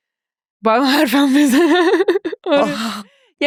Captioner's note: laughs